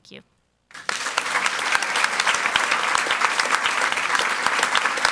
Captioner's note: audience applauds